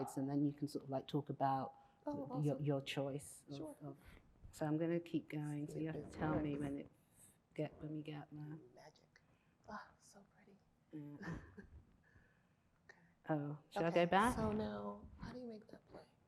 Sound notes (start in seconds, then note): 11.2 chuckles